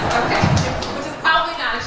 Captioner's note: laughter